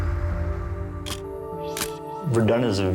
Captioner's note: camera shutter click